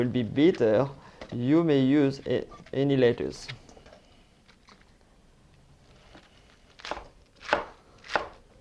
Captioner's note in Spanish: sonido cortando